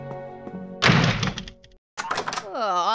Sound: slam

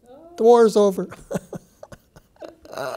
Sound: chuckles

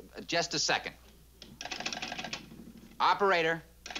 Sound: dialing

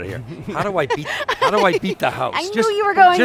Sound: laughing

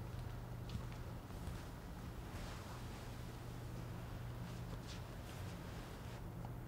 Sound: footsteps

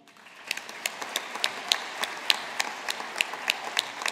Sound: audience applauding

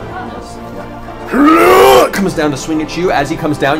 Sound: groans

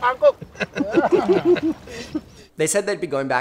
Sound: laughing

